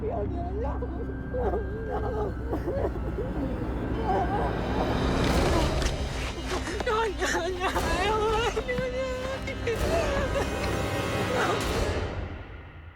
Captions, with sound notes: (INDISCERNIBLE SCREAMING) NO, NO, NO.